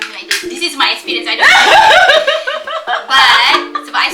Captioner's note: laugh